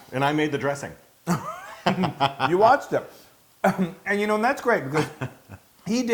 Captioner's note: laugh